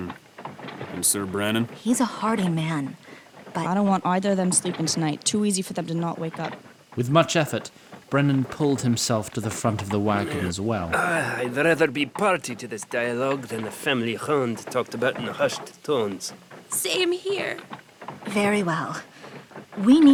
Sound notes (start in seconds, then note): 16.5 croaks